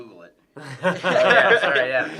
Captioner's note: laughs